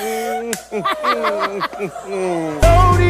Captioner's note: more evil laughter